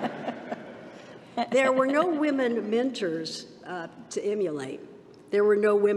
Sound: laughter

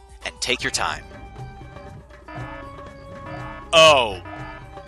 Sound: alarm blaring

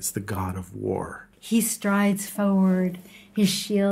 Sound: voiceover

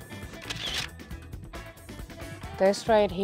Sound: camera shutter whirring

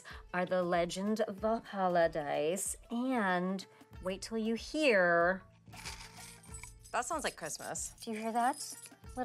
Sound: dice jingle

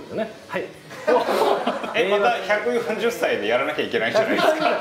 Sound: laughs; laughs

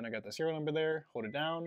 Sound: beeps

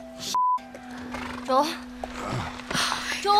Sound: sighs; Joel groans

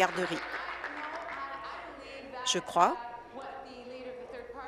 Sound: applause

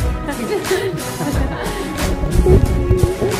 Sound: laughter

